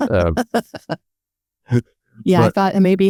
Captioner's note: laughing